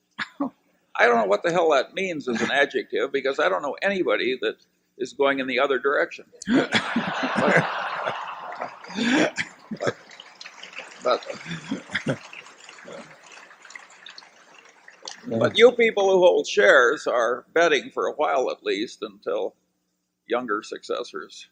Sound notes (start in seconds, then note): 6.4 laughter and applause